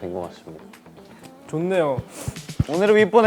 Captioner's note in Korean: 짝짝짝